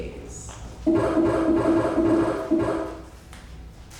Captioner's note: lights buzzes